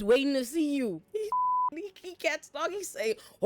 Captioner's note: beep